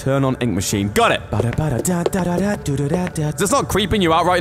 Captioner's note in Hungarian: dudolgatás